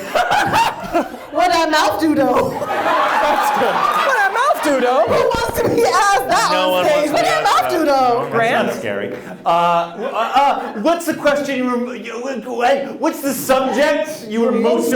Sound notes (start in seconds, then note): 0.0 laughs; 2.1 audience laughs